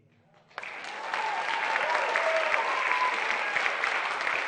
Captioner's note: cheering